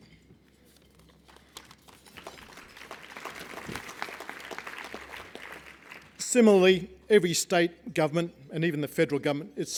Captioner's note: applause